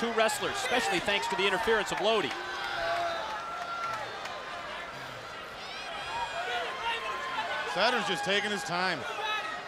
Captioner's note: crowd chatter